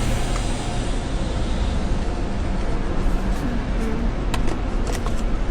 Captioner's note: engine humming